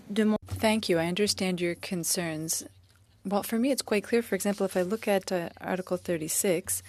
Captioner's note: speaking French